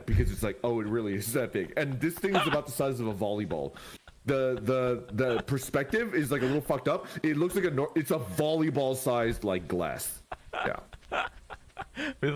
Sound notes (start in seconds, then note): 3.4 laughs; 10.0 continues to laugh